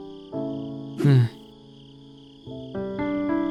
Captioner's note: sigh